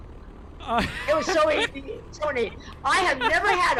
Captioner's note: laughs loudly; murmurs